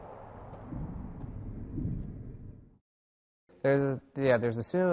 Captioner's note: road noise